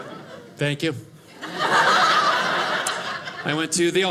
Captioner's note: audience laughing